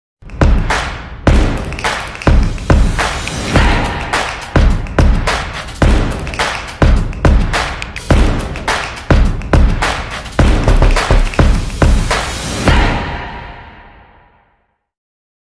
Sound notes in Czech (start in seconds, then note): 3.9 Potlesk